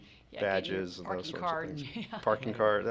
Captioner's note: laughs